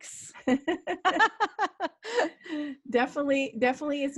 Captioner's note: laughing